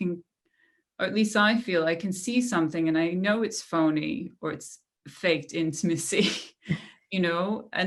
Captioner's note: laughter